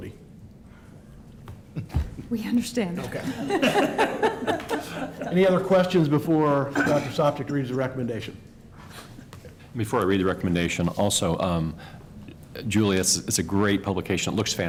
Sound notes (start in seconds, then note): 3.1 laughter